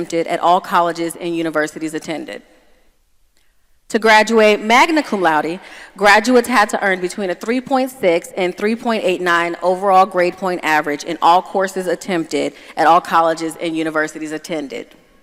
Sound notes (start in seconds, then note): none